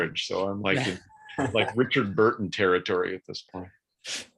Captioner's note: laughs